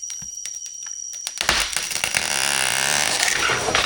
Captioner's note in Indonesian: lonceng